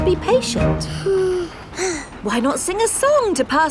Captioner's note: both sigh